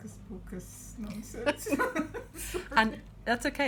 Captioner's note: laughing